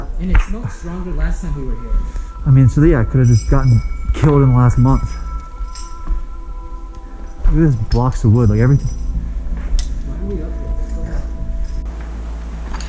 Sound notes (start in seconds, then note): 5.7 metal scraping